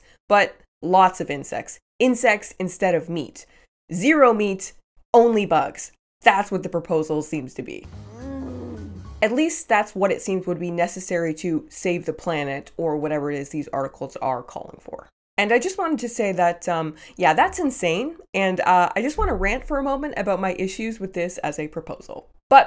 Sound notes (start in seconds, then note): 8.1 woman groaning